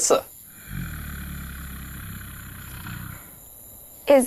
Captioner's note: zombie growling